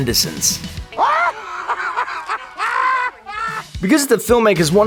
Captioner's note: laughing squatch